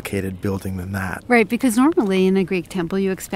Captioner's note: voiceover